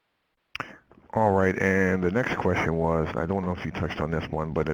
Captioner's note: voiceover